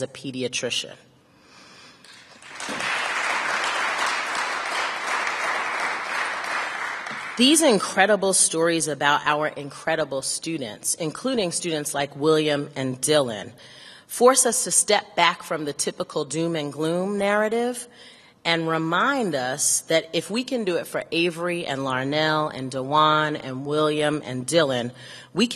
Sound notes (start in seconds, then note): 3.8 applause